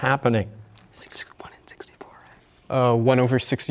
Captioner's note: whispering